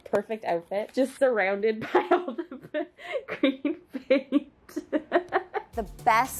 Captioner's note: laughs